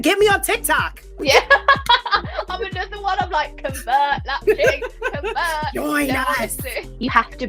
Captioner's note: laughs